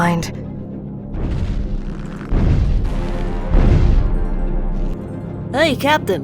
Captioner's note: heavy footsteps